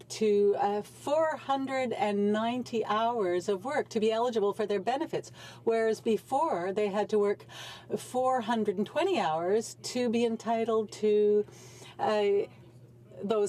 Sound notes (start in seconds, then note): none